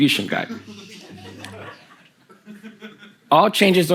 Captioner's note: the audience laughs